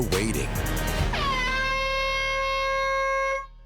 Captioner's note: air horn